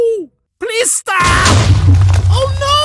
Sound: loud explosion

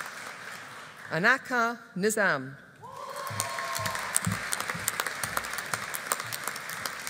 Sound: audience applauding

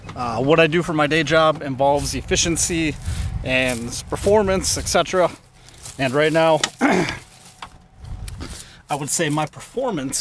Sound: clears throat

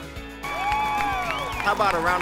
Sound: crowd cheering and applauding

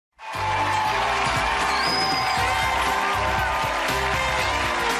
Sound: audience cheering and applauding

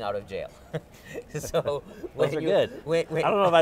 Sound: laughs

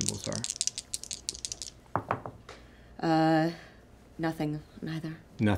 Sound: dice rattle and thud

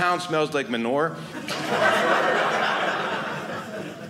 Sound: audience laughing

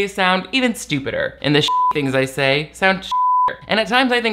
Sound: beep

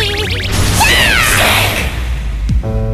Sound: screaming

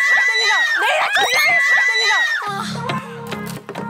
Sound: dolphin-like screams↗↗

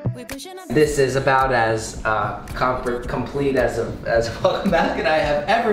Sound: laughs

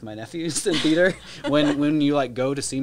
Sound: laugh

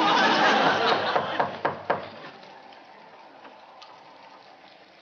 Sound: knocking on door

